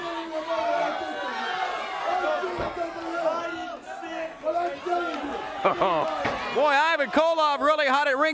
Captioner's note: crowd cheers